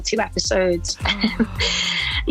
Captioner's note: gasp